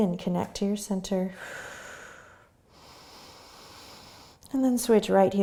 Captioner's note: exhaling and inhaling